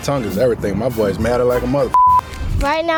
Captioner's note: beep